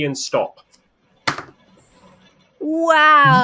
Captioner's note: pen clatters on desk